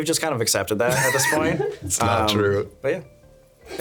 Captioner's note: laughing